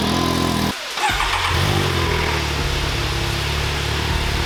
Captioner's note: engine starts